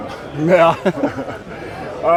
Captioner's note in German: lachen